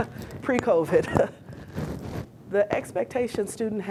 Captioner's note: laughing